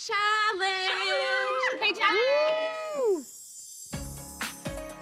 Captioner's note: overlapping chatter